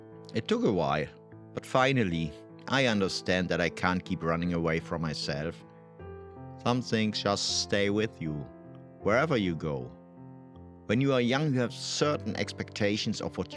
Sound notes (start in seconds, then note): none